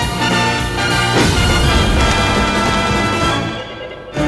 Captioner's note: flames whooshing